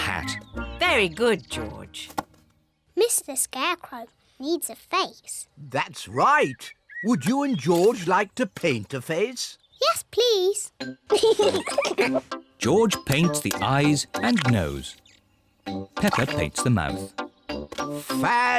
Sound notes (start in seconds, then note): 11.1 both giggle